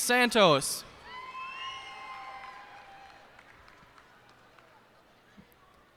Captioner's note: cheers and applause